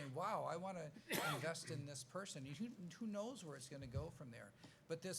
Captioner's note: coughs